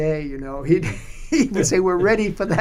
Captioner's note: laughter